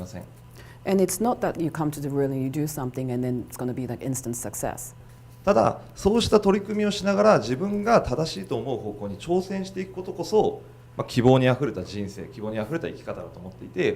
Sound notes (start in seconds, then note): 5.7 speaking foreign language